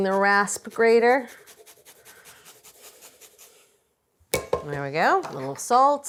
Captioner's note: grater grating